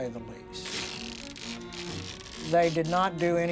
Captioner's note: fabric tearing